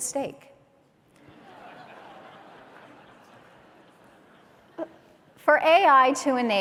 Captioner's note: laughter